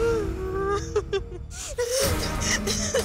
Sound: cries

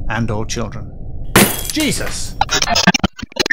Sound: bang

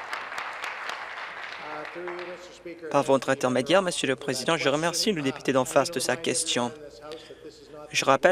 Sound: applause

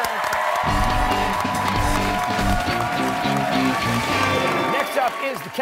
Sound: cheers and applause

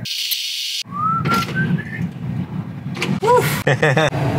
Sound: whistling; laughs

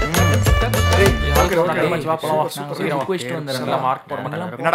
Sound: overlapping chatter

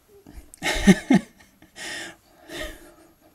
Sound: laughing

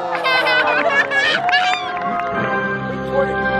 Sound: audience cheers; laughs

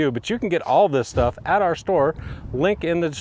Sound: words whooshing

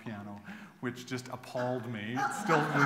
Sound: laughter

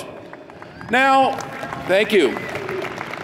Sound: audience applauds

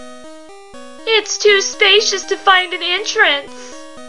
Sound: whiny voice

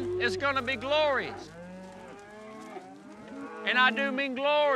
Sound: mooing in distance

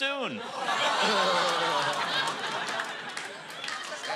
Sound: mixed reaction

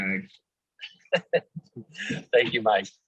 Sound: laughter

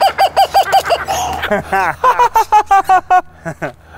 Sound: birds sqwuaking; laughing

